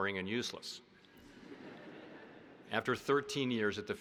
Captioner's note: audience laughing